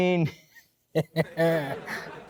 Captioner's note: evil laugh